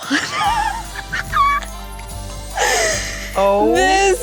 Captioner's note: laughing